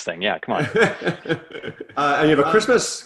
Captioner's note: laughing